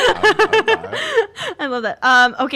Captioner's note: laughs